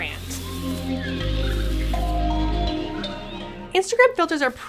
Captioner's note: leaves rustling; percussive music